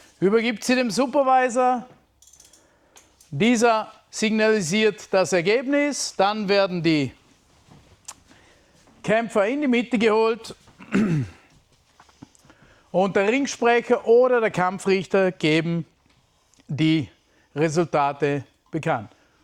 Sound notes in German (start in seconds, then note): 10.7 räuspern; 10.7 husten